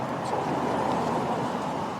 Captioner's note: vehicles driving